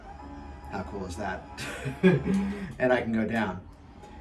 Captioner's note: laughing